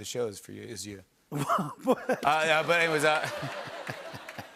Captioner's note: laughs